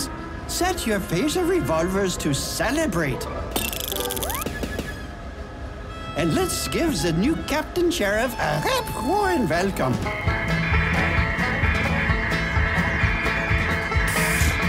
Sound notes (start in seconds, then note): 3.5 sound of charging phasers; 10.5 phasers firing, upbeat music